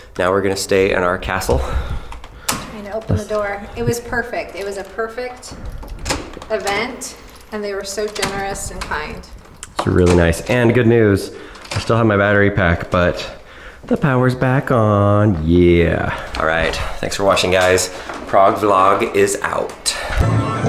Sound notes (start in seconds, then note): 2.0 lock clicks